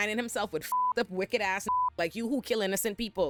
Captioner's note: beep